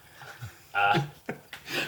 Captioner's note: laughs